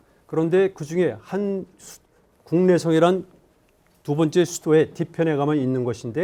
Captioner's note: speaking in Korean